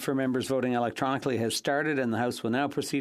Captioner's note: speaking French